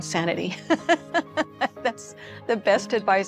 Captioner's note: laughs